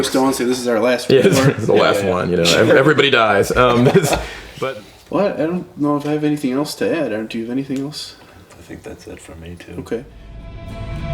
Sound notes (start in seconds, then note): 1.1 laughs